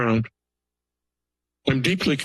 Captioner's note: pause